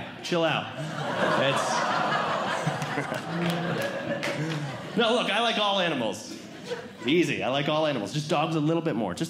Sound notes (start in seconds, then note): 0.7 audience Laughing; 1.8 audience Groaning